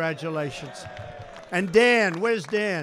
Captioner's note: applause